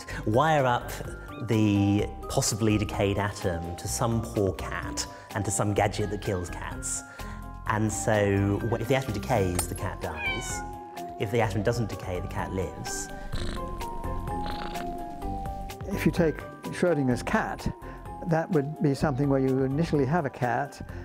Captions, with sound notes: "Wire up the possibly decayed atom "to some poor cat "and to some gadget that kills cats "and so if the atom decays, "the cat dies, (cat meows) "if the atom doesn't decay, the cat lives." (cat purrs) If you take Schrodinger's cat, that would be something where you initially have a cat